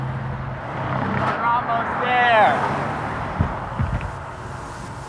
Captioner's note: passing car